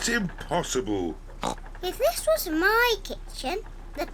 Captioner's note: oinks